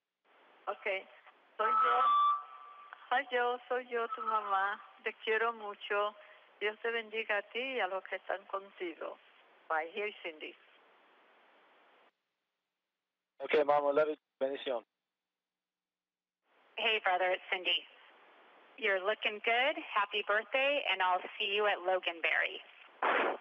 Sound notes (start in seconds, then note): 4.5 foreign language; 14.2 foreign language